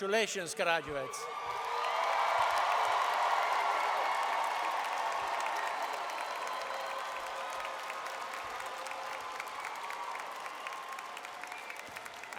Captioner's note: crowd Cheering